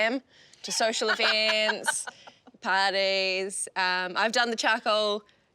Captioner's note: laughs